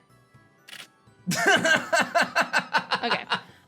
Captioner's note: laughs